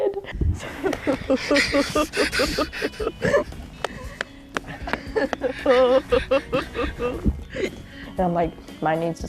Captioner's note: laughing